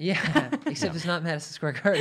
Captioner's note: laughing